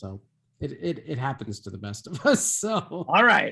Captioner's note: laughs